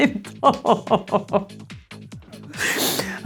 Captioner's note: laughs